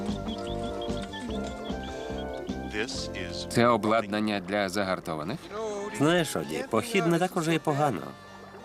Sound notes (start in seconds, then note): 4.5 water flowing